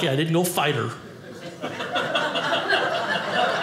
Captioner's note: audience laughing